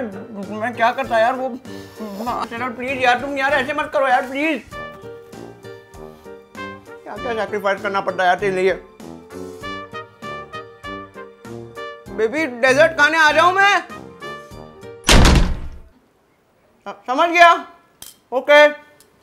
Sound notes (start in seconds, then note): 15.0 Sheral slams the door